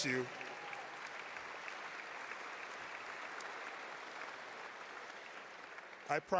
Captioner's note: applause